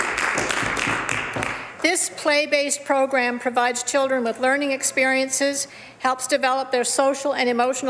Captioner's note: some Applause